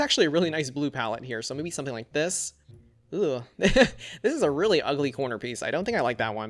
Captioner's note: laughs